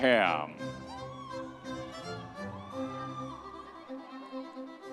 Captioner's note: audience members cheering; classical orchestral music continues